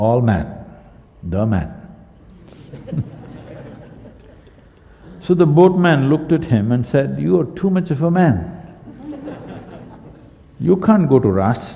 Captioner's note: laughter